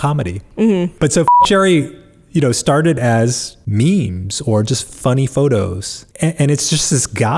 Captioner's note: beep